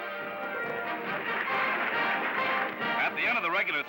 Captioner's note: applause